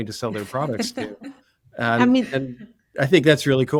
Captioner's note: laugh